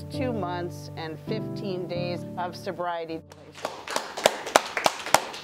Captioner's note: clapping